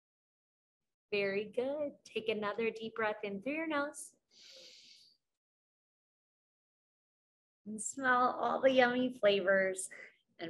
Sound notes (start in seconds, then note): 4.4 inhales